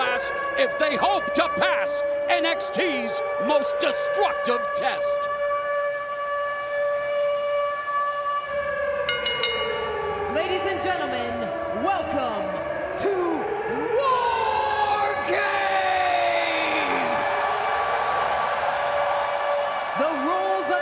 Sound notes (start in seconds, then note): 9.0 bell ringing; 17.1 crowd cheering